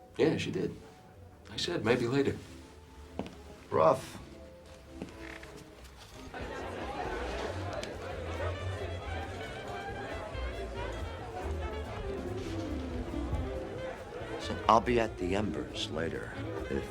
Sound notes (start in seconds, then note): 6.3 upbeat music; 7.1 patrons chatter